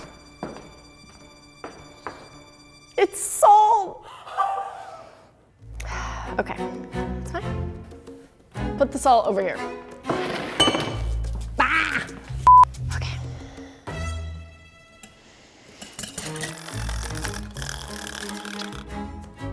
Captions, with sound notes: It's salt! (laughing) Okay, it's fine. Put the salt over here. (screams) Okay. (whirring)